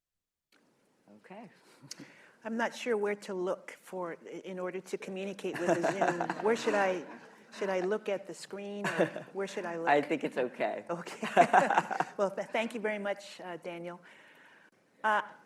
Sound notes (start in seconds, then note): 5.5 laughter; 11.2 laughs